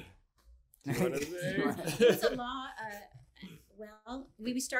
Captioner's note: all laughs